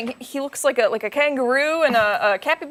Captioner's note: laughter